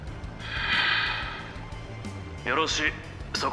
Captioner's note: sigh